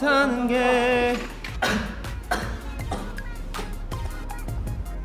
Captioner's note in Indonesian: Batuk